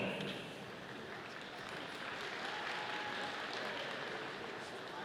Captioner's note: audience applauding